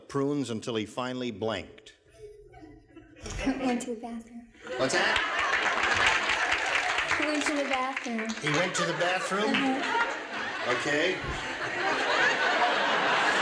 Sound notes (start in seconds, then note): 5.0 applause; 11.8 laughter